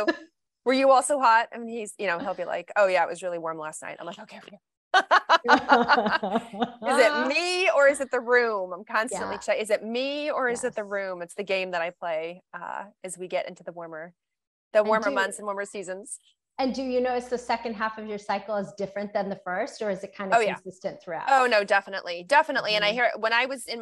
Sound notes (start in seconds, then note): 5.0 laughs